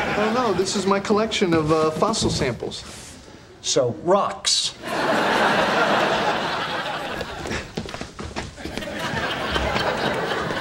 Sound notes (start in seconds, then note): 4.8 audience laughing